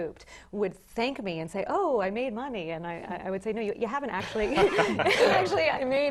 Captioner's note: laugh